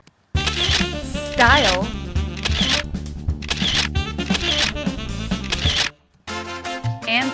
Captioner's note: camera shutter